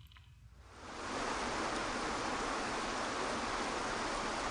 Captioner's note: water falling